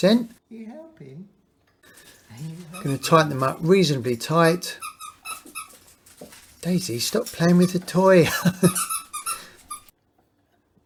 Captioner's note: squeaking